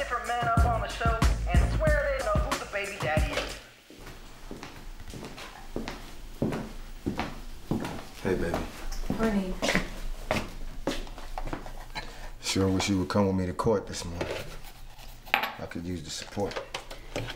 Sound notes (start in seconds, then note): 3.8 footstep clanking softly